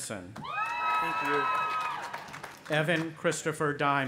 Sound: audience cheering

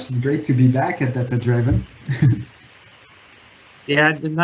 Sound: chuckling

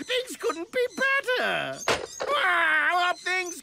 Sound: phone clicks

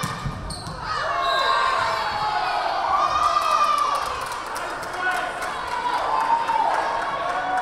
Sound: crowd cheering; whistle blaring

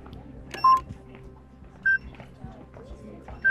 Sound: timer beeping

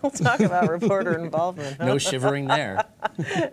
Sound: laughter

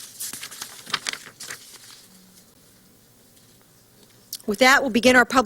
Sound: silence

